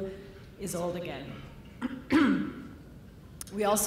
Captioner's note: coughs